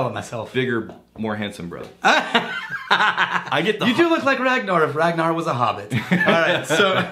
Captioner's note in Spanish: Riéndose